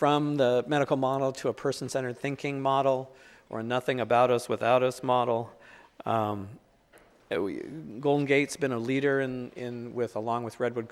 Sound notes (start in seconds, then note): none